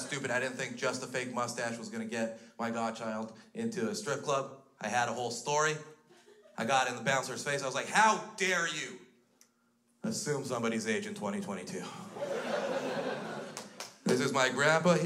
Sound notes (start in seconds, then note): 12.0 crowd laughs